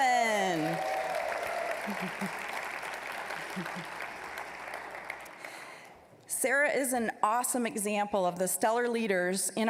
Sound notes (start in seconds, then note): 0.2 applause, cheering; 3.2 applause